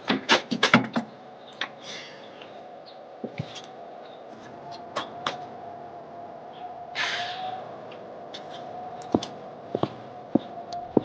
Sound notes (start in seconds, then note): 0.2 rattling; 6.9 sighing